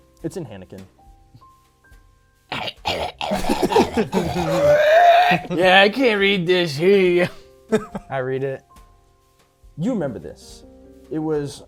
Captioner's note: speaking hanikin